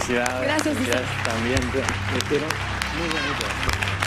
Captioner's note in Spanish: aplausos